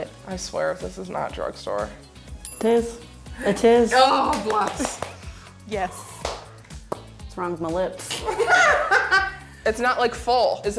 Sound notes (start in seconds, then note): 6.6 smacking lips; 8.2 laughing